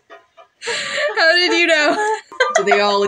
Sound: breathless Laugh

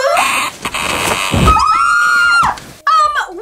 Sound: screams

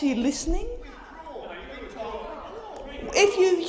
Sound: opposition senators interjecting

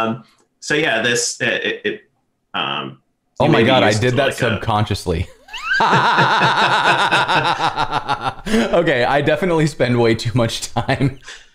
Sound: laughter

